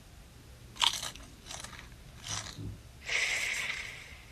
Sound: crunching

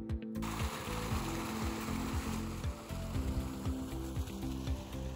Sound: upbeat music; water splashing

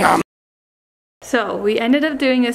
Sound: person eating

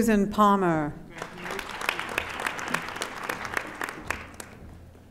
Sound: audience applauding

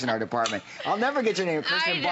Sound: laughter

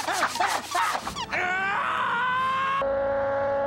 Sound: screaming

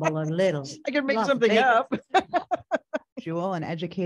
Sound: laughing

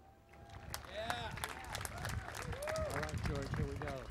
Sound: cheering and Applause

